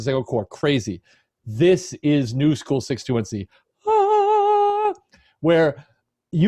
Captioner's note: imitates angelic choir